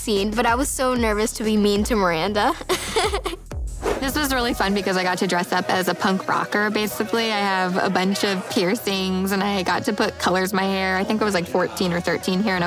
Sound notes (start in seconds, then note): 2.4 laughing